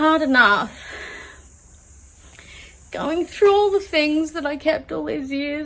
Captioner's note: sighs; voice breaks